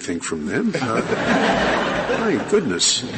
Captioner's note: laughter